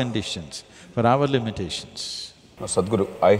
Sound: none

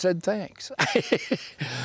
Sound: layghter

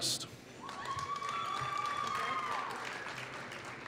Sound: applause

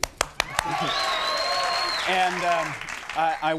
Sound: audience cheering

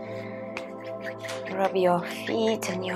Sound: loud rubbing

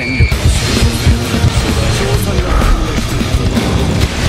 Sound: relieved exhale

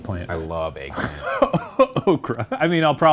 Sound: laughing

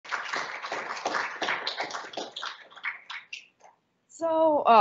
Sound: audience applauding

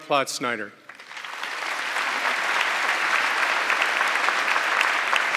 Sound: audience clapping

